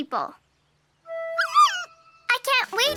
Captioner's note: bear squeaks